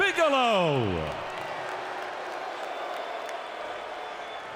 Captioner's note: audience booing